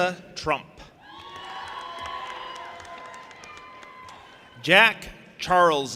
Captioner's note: audience applauding and cheering